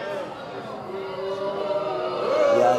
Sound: audience jeers

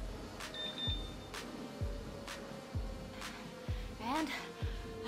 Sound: machine beeps

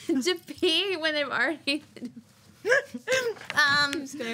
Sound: laughing

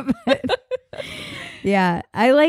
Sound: laughing

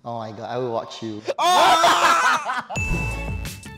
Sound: screams in disbelief

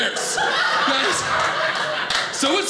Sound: audience laughing

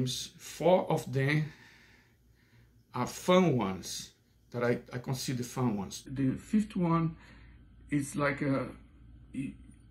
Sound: none

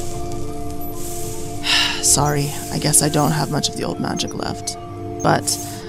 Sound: sighs

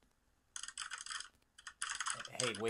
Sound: keyboard clacking

